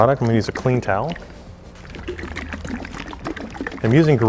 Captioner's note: sloshing